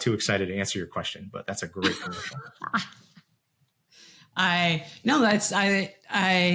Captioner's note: laughs